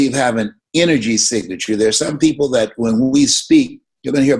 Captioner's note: none